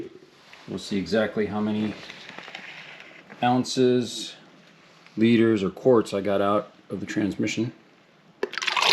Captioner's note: fluid pouring